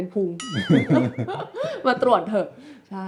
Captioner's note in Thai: เสียงหัวเราะ